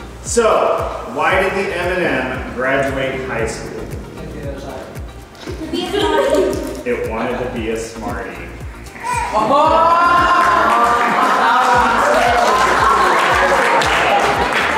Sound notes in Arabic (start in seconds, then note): 5.3 الضيوف يضحكون; 9.3 الضيوف يضحكون ويصفقون